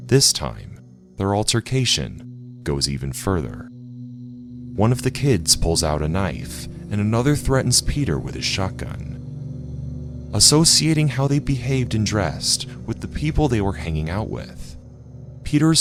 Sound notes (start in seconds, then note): none